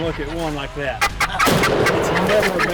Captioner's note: turkey call sounds; gunshot fires